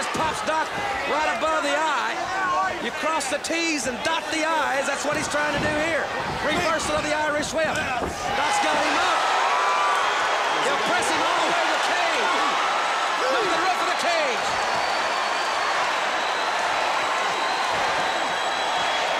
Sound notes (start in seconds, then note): 9.5 crowd cheering; 14.2 crowd cheering; 15.5 crowd cheering